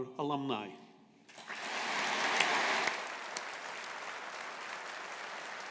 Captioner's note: audience applauding